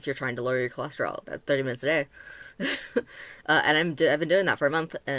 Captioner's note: chuckle